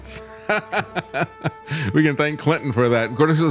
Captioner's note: laughing